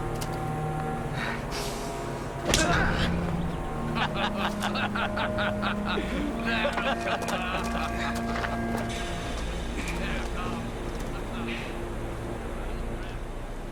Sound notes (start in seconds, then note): 2.4 smack; 4.3 laughing